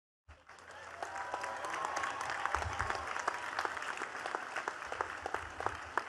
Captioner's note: attendees cheering and clapping